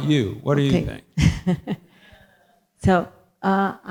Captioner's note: laughs